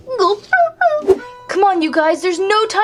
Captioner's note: wimpering